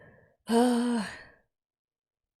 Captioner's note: stressed exhale